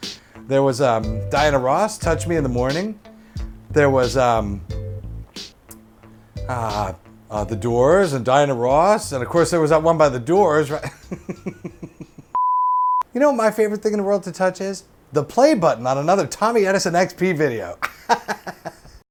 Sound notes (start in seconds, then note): 10.8 laughs; 12.3 beep; 17.8 laughs